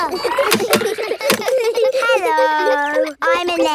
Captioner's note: laughs; kids giggling